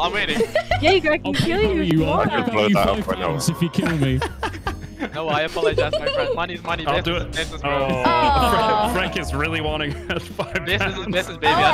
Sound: murmuring

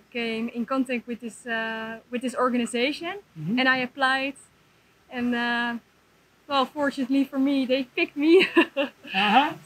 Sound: laughs

